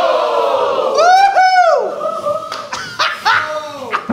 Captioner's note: laughter